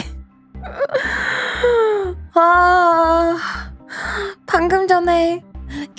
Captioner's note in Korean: 헉 소리; 한숨